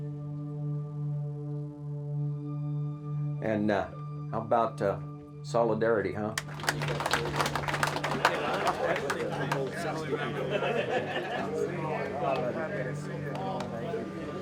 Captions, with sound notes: And, how 'bout solidarity, huh? (group applauds) (group laughs and chats indistinctly)